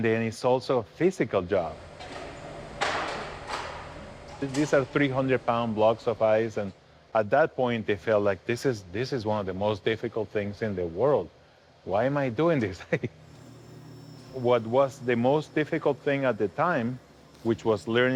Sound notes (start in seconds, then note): 2.8 heavy ice block shuffles on dolly